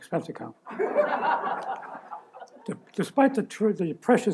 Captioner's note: laughter